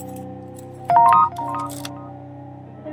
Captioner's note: text sound; dark music